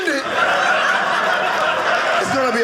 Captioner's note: audience laughing